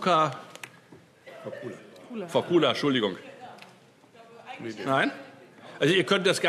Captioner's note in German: Zurufe DIE LINKE